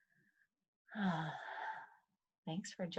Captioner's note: sighs